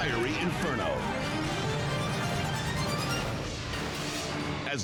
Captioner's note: fire roaring; dramatic music